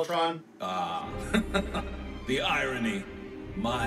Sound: laughs

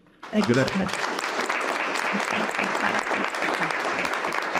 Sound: group applauding

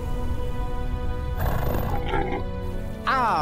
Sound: snarling

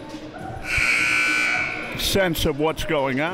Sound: buzzer sounding

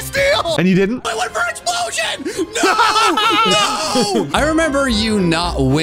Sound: screaming

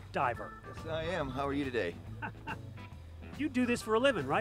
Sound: chuckles

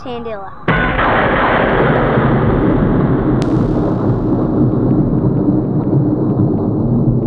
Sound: lightning strikes

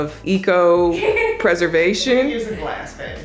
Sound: giggling

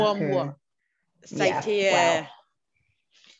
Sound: French

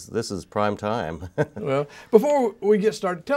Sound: laughs

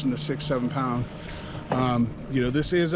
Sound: boat engine idling

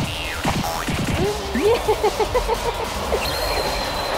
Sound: laughs

